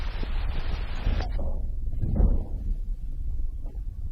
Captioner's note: muffled thumping